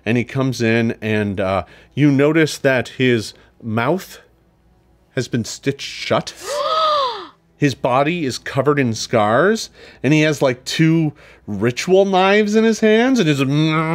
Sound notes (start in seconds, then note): 6.4 players gasp